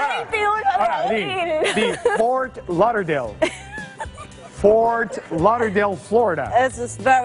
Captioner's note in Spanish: audio en ingés